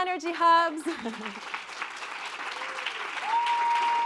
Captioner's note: applause